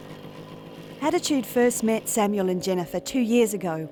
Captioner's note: motorcycle engines